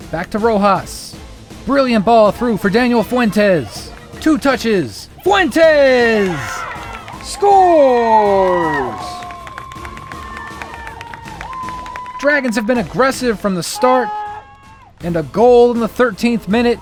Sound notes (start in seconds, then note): 9.2 cheers